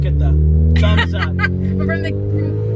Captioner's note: laughing